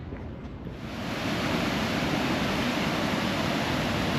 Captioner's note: water sounds